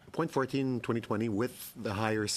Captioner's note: speaking French